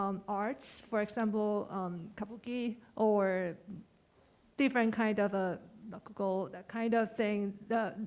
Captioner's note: speaking japanese